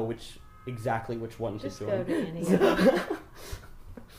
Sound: laughs

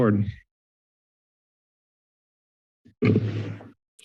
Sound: silence

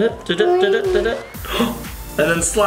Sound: gasping for air

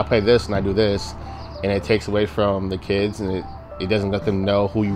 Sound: none

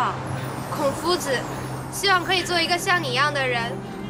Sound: speaking Chinese

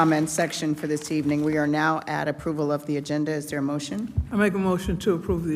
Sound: applause

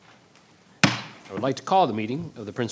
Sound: gavel banging

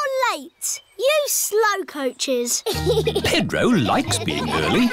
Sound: giggles

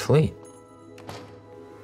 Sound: door jingle

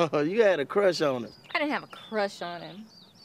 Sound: chuckles

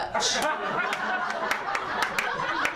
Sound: laughter, applause, and cheering

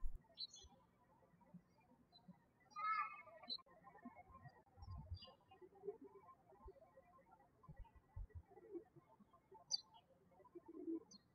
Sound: birds chirping

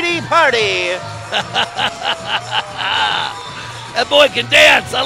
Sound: laughter

